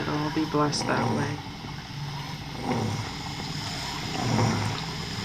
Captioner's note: grunting Softly